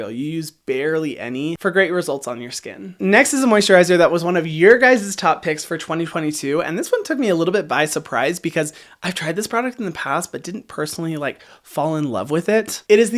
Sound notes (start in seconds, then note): none